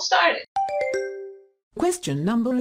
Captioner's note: question ding